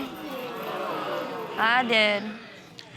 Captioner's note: audience exclaims